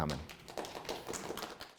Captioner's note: audience applauds